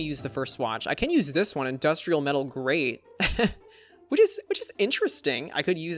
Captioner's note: laughs